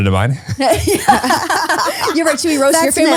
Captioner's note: laugh